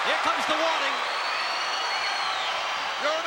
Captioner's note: crowd cheering